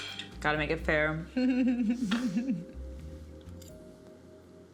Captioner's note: chuckles